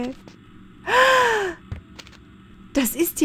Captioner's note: gasp